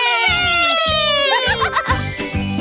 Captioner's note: transition tones